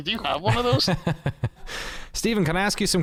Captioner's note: laughter